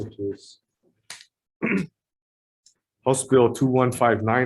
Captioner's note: clears throat